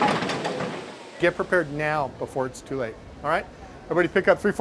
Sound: shaking, rattling

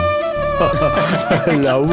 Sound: laughs

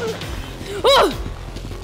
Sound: exclaims

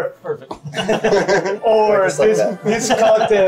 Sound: everybody laughing

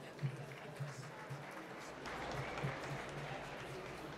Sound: applause

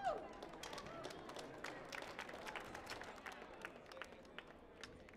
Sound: crowd applauds

